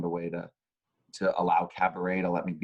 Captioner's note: none